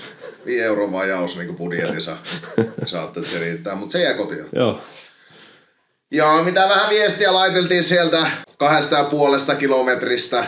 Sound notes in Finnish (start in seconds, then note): 0.0 naurua